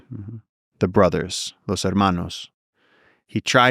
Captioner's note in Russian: что-то на иностранном языке